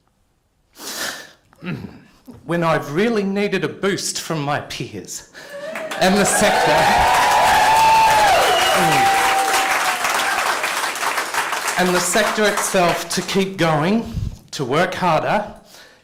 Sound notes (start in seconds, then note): 5.4 cheering and applause